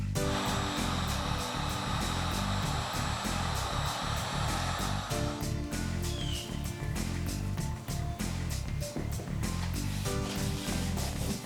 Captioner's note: spatula scraping; dryer humming